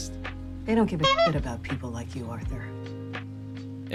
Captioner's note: honk